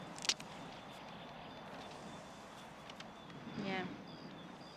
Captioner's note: branches cracking